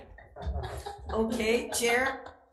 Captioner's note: Chairs laughing